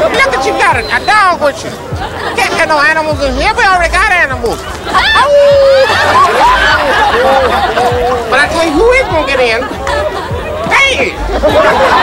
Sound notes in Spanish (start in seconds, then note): 5.6 aullidos; 5.7 risas